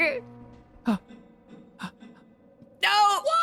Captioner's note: gasps